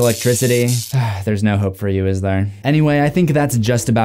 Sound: electric crackling; sighs

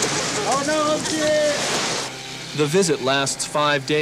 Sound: speaking yup'ik dialect

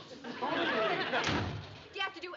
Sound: door slams

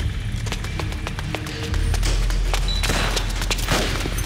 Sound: car doors open, footsteps

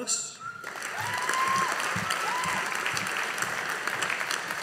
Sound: audience applauding

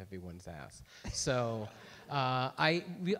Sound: everyone laughs

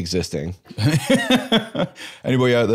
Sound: laughs

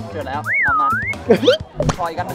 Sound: chuckles

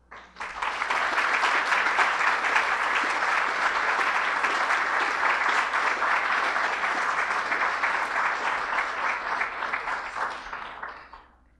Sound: applause

